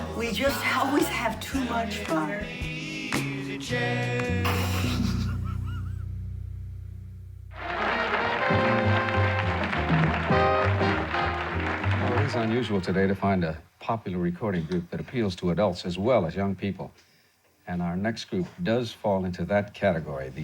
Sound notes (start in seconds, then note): 4.5 laughing; 7.6 upbeat music